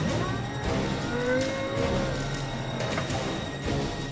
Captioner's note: machine whirs